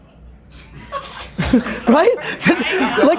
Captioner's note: group laughter